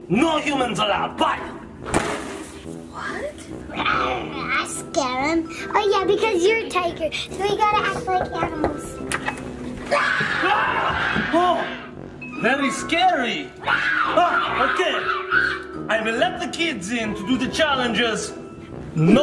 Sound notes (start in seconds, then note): 1.9 door slams; 4.0 roaring; 7.8 knocking; 9.8 children roaring